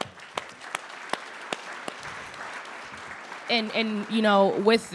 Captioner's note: audience clapping